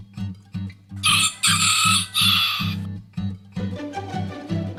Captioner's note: upbeat music; rooster chirping